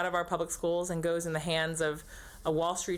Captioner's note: none